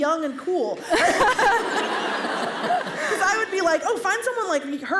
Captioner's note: laughter